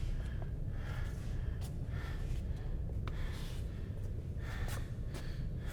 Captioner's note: heavy breathing continues